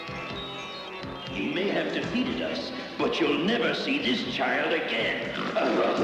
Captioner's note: snort